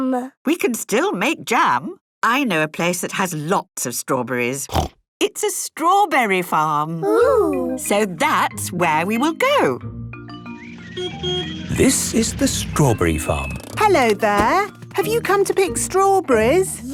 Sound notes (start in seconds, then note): 10.4 beeps